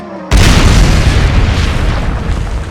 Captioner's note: kaboom!